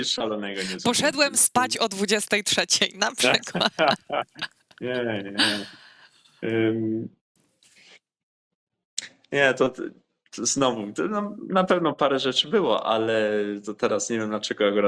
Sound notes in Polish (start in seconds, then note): 3.2 śmiech